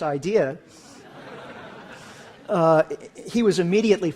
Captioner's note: laughter